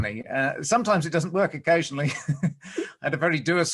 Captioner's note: laughs